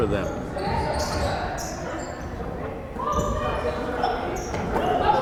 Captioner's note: crowd chattering